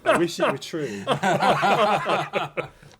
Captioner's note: laughter